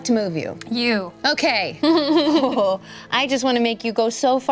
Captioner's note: laughs